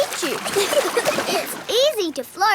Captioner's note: giggling